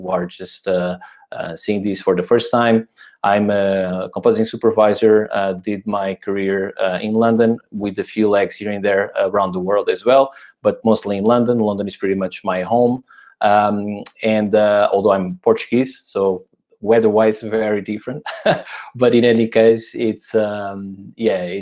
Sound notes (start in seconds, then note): 18.2 chuckles